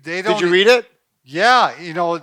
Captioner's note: laughs